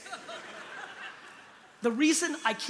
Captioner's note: laughter